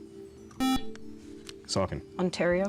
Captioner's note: buzzer